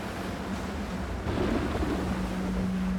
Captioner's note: thunder crashes